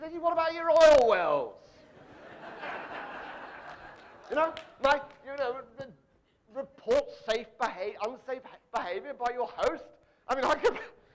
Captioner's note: audience laughing